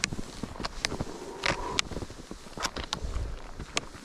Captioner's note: whoooo